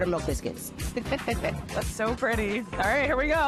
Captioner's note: laughs